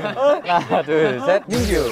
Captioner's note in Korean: 스윽